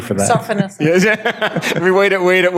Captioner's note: laughing